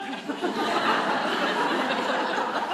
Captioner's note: laughter